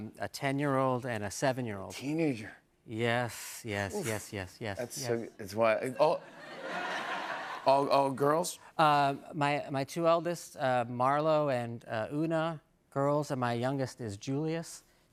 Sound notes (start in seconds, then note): 6.0 laughter